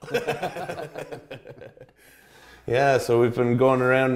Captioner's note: everyone laughs